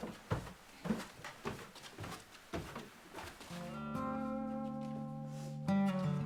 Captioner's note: footsteps coming down stairs